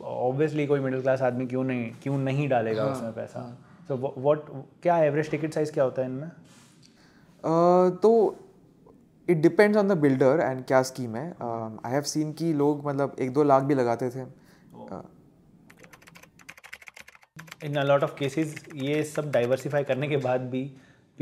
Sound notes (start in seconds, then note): 15.7 typing